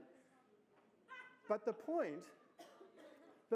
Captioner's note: laughter